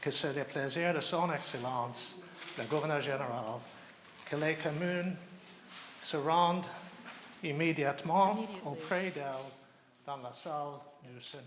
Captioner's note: speaking French